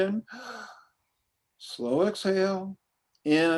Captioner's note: inhales